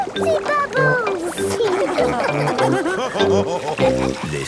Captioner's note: all laughing